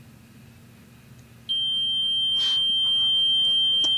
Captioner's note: REM Pod ringing